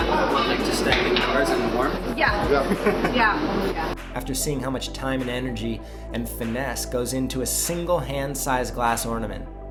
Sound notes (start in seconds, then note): 2.6 laughter